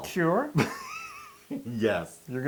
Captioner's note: laugh